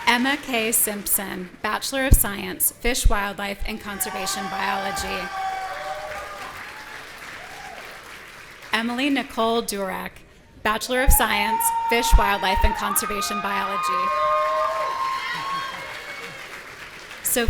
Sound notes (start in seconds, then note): 3.8 audience cheering; 14.3 audience cheering